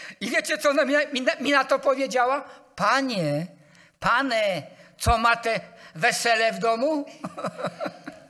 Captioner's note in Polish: śmiech